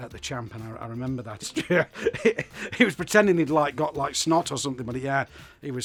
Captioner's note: laughs